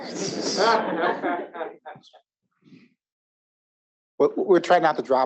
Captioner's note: audience laughing